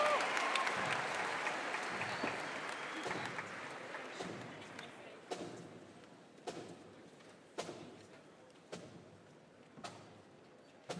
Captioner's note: applause